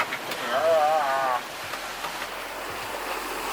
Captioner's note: weird moan